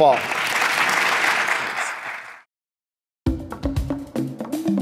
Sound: audience applauds

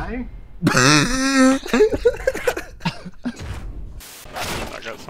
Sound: wheezing

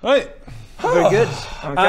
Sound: sigh

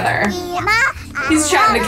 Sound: toddlers babbling

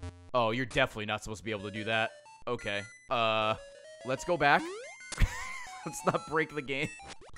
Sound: laughs

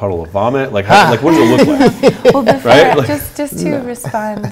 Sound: laughing

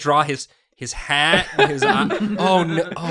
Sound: chuckles

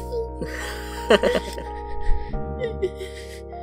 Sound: chuckles

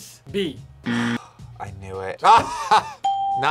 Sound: buzzer rings; sighs; laughs; bell rings

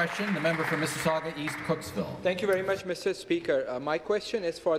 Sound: applause

